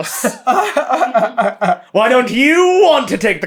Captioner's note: laughter